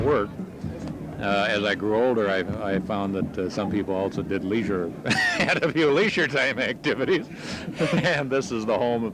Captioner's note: laughter